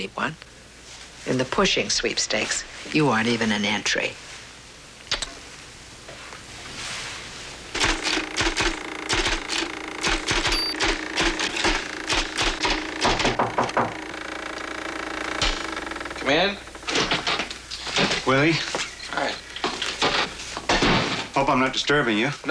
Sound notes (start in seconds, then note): 6.6 typewriter clacking; 12.1 knocking on door